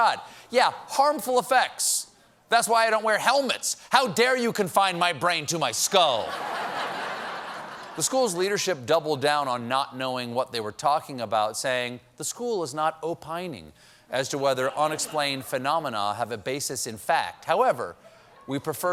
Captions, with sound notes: YEAH, HARMFUL EFFECTS. THAT'S WHY I DON'T WEAR HELMETS: HOW DARE YOU CONFINE MY BRAIN TO MY SKULL! ( LAUGHTER ) THE SCHOOL'S LEADERSHIP DOUBLED DOWN ON NOT KNOWING WHAT THEY WERE TALKING ABOUT, SAYING, "THE SCHOOL IS NOT OPINING AS TO WHETHER UNEXPLAINED PHENOMENA HAVE A BASIS IN FACT.